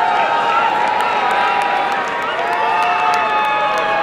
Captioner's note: applause and cheering